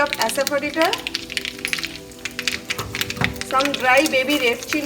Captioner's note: food sizzles